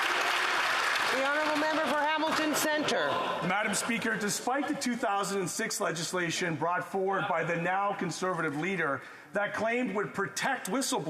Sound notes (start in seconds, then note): 3.6 applause